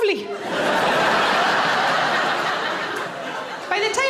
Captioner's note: audience laughing